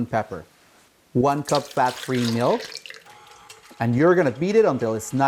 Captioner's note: milk splashing